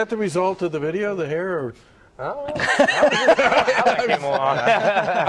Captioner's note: laughter